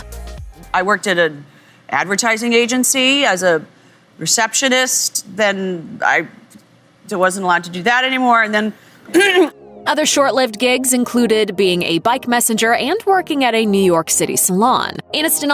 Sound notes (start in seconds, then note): 9.1 coughs